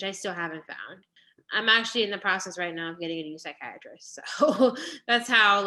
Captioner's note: laughter